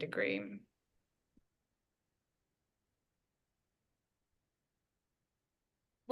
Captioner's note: silence